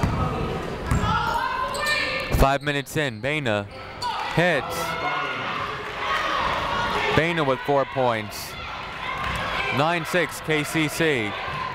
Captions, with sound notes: (people shouting in the crowd) Five minutes in, Baena hits. (people shouting in the crowd) Baena with four points. Nine-six, KCC.